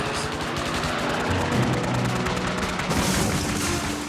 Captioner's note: gunshot fire